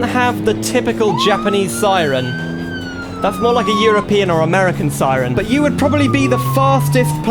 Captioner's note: siren Sounds